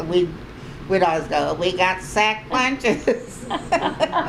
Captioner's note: laughter